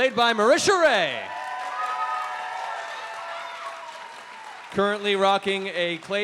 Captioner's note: cheering